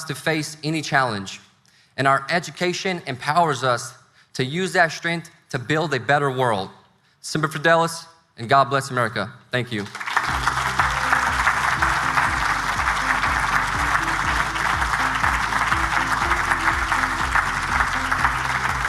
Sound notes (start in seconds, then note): 9.8 audience applauding; 16.2 upbeat music